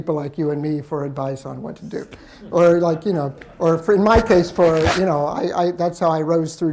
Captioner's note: laughter